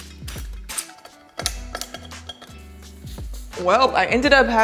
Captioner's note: hand spray gel crackles; glass clinks